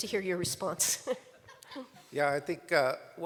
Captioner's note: laughter